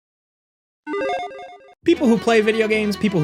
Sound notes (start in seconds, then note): 0.9 logo beeping